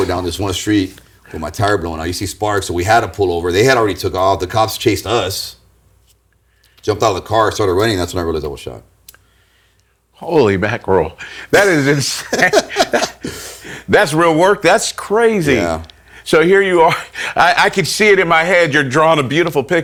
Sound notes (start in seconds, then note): 11.5 laughing